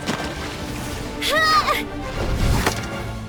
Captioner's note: grunt of surprise; battle cry